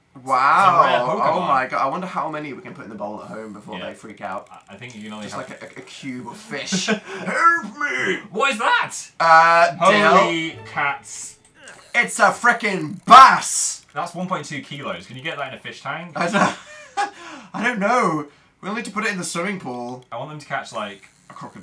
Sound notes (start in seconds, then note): 5.2 laughs; 6.8 fish voice; 15.9 laughs